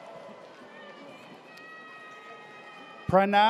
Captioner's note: audience cheers